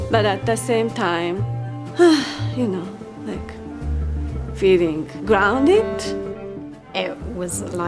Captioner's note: sigh